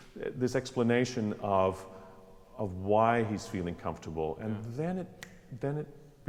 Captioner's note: snaps